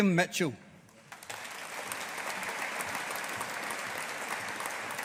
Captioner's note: audience applauding